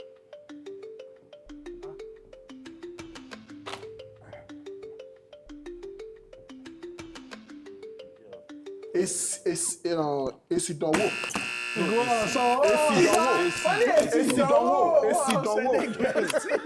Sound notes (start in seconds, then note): 10.9 buzzer pressed